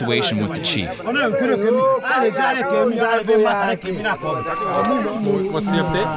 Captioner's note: Villagers speaking Lingala